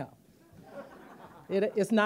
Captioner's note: audience laughing